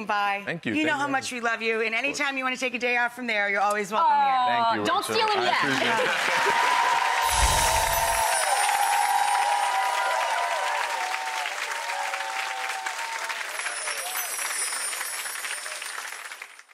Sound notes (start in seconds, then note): 7.1 cheer and applause